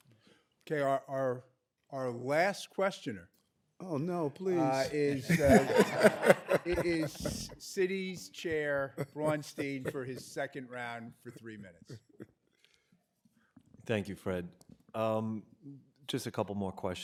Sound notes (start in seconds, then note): 8.5 laughter